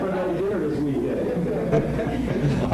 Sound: laughter

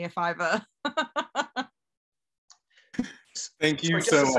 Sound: laughs

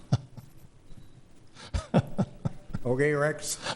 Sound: laughing

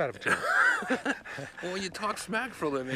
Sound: Jeff laughing

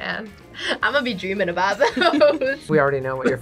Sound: both laugh

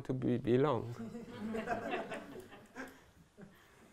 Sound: laughter

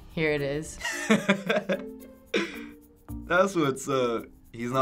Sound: chuckling

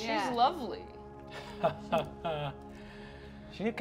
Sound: chuckling

